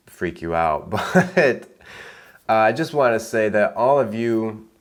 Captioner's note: laughing